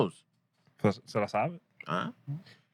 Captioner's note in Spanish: Hablando en idioma extranjero